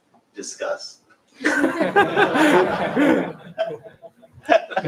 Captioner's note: laughter